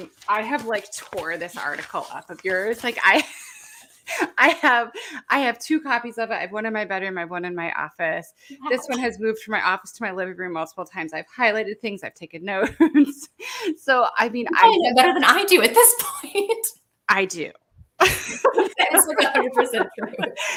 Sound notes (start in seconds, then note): 12.7 laughs; 14.5 laughs; 18.0 laughs